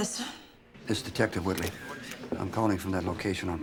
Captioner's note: camera shutter clicking